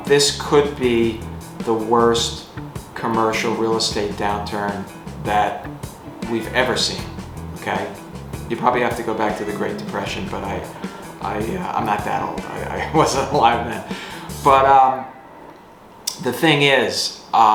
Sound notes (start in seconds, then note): 13.1 laughs